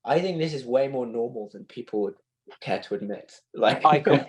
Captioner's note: laugter